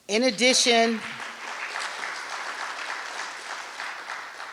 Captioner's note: applause